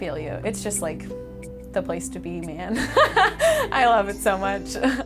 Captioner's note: laughs